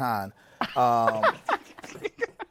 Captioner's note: laughter